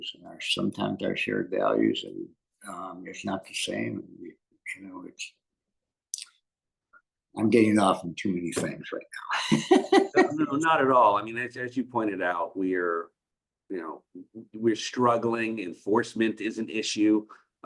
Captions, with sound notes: And sometimes our shared values is not the same, you know. I’m getting off on too many things right now. [Laughs] Not at all and as you pointed out we're struggling. Enforcement is an issue.